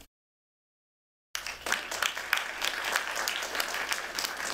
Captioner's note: applause